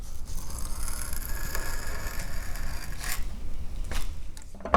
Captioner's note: sound of wood fibers compressing